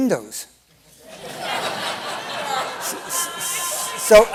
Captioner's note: laughter